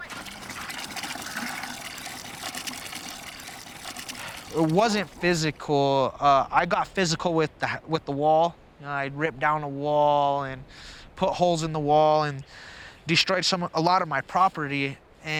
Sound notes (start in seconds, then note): 0.0 water splashing